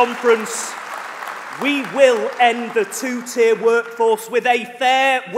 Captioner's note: applause